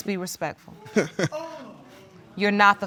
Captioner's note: chuckling